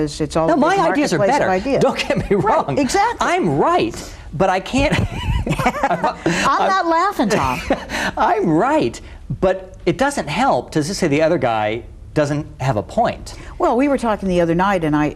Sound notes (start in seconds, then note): 4.8 laughs